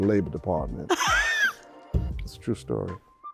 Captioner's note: laughing